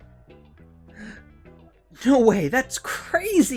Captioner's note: gasp